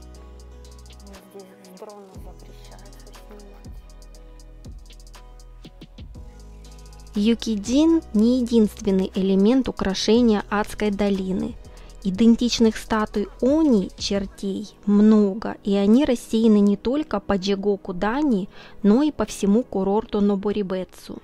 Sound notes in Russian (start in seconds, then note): 6.7 закадровый голос